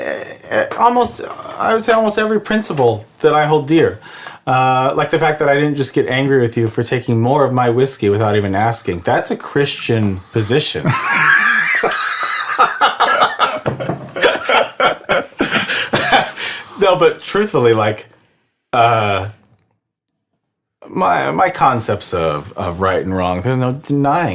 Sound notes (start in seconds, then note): 10.8 laughs; 10.8 childishly laugh